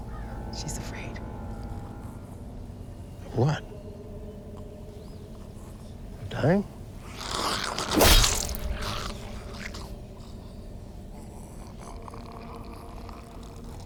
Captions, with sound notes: She's afraid. - Of what? Of dying? [grumbling] [growling] [grumbling]